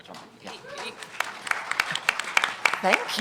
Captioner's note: applause